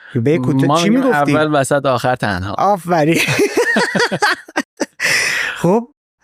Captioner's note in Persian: خنده